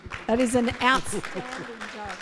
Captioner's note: audience clapping